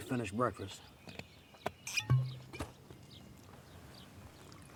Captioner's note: cork popping